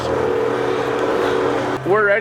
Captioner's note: ringing